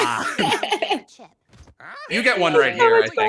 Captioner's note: laughs